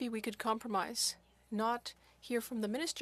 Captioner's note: speaking French